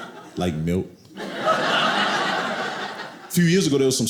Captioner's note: audience laughing